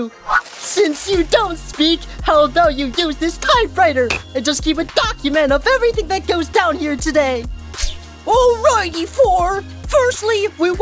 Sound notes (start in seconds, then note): none